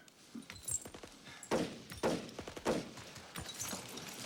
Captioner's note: gunshots